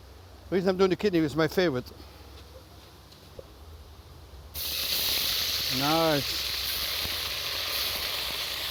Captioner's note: sizzling; pots rattling